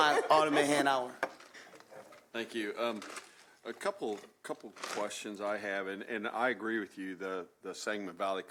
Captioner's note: laughter